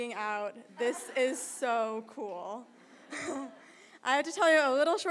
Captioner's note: crowd laughter